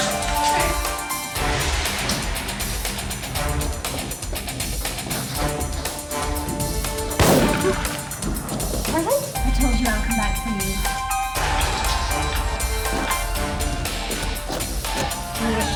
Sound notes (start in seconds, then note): 7.1 gun fires